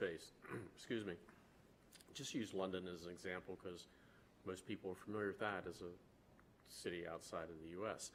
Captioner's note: clears throat